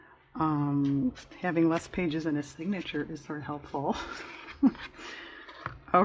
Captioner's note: laughs